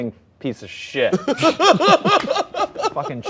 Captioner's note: laughter